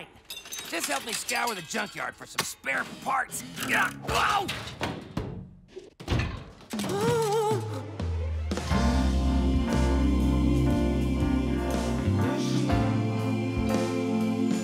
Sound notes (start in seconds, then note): 3.0 grunts; 6.2 exclaiming